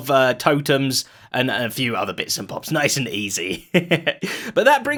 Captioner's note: chuckles